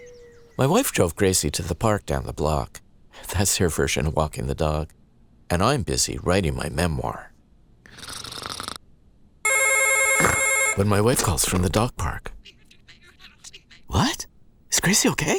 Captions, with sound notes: My wife drove Gracie to the park down the block. That's her version of walking the dog. And I'm busy writing my memoir... (snoring) (phone ringing) ...when my wife calls me from the dog park. What?! Is Gracie okay?